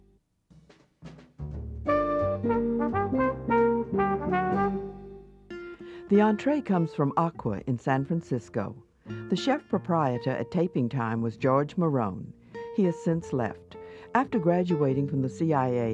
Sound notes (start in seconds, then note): 1.4 jazz music; 6.2 voiceover